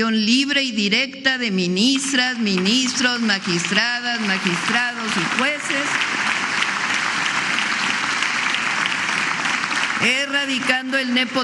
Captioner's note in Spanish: aplausos